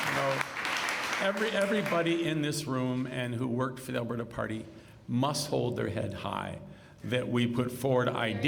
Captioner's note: cheers and applause